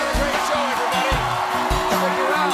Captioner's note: cheers and applause